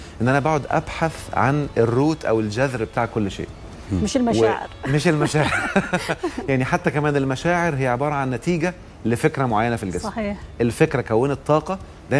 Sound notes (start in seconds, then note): 5.2 laughs!